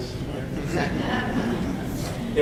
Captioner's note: light laughter from audience